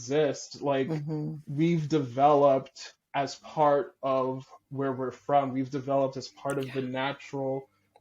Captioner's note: breathy